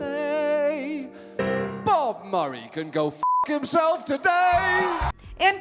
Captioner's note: beep; audience applauding